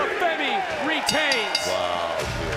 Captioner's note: bell rings